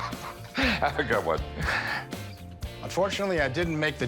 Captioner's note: laughs